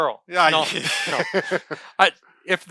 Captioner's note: laughing